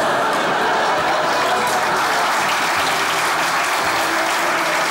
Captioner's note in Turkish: Kahkaha ve alkış sesleri